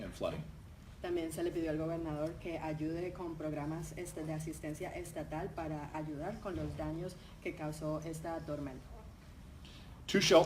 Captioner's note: speaking in Spanish